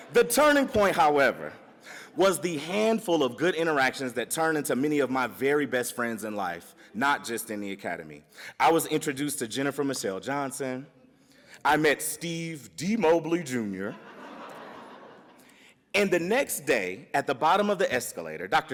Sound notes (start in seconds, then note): 13.9 audience laughs